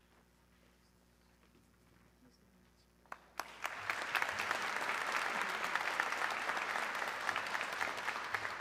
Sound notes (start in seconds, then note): 3.1 audience clapping